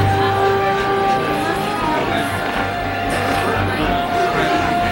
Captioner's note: crowd chattering